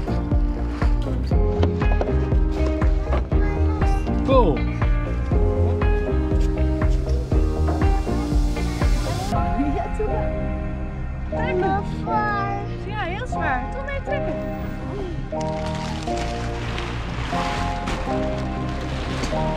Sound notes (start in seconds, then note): 0.1 gentle piano music continues; 5.4 gentle piano music; 12.2 speaks in an indistinct language; 14.8 gentle piano music